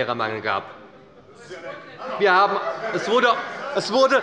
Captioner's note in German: Zurufe von der CDU